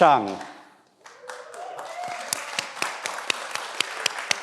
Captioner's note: everyone applauds